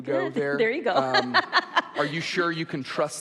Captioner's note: laughs